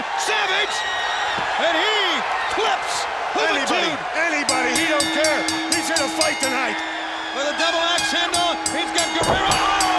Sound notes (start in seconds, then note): 6.3 bell ringing; 8.1 crowd cheering